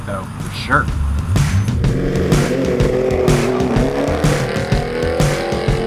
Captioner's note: engine roaring